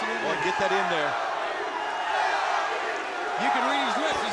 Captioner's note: applause